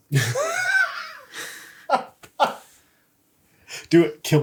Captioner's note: laughs